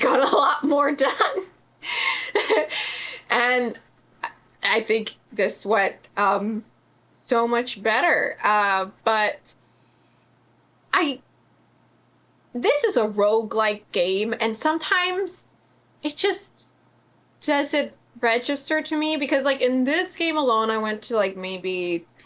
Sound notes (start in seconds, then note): 2.0 laughs